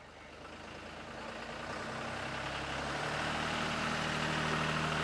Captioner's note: tractor engine roaring